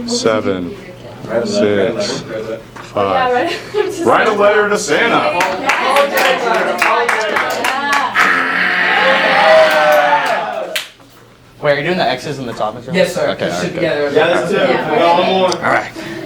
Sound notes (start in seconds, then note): 3.6 laughs; 5.2 green team clapping